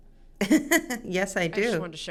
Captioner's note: chuckles